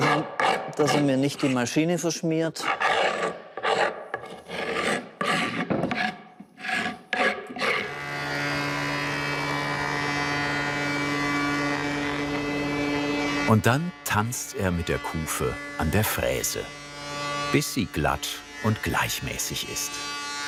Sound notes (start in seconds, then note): 2.6 scraping noises